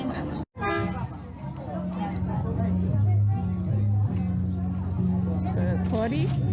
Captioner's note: market sounds